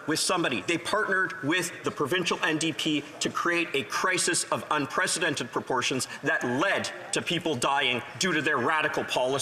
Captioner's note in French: voix de l'interprète